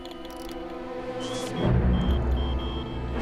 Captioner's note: beeping rapidly